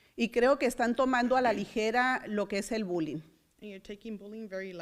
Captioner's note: foreign language